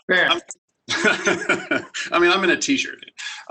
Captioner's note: laughs